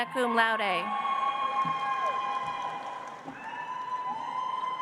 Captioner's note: audience applauds